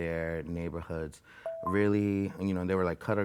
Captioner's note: alarm beeping